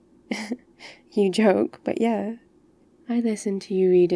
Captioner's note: laughs